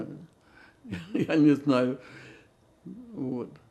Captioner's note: laughing